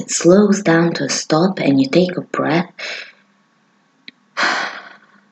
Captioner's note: deep breath